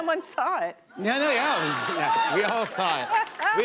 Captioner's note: laughter